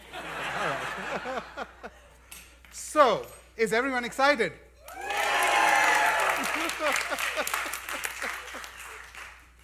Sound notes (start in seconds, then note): 2.9 laughter; 4.8 cheering and Applause